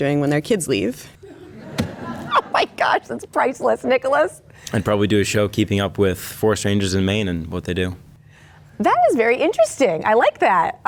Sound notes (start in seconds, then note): 1.3 crowd laughing